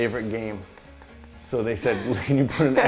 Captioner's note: laughing